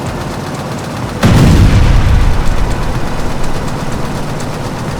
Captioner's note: explosion bangs